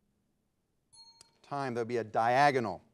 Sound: bell ringing

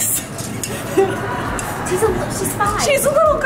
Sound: giggling

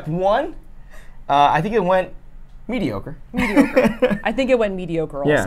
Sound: laughs

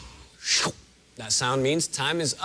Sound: slurp

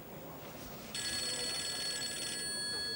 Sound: phone rings

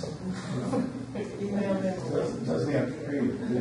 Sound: group chatters

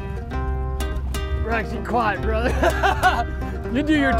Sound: laughing

